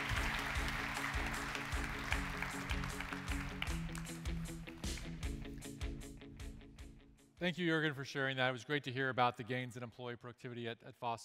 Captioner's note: applause